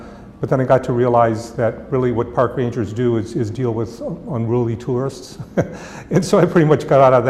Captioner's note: chuckle